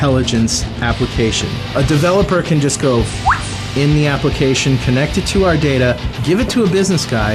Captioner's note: whistle